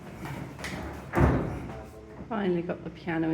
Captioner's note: clunk